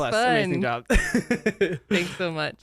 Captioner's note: laughs